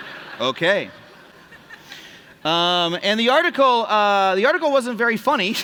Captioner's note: laughter